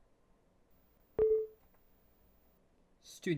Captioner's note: windows user account control sound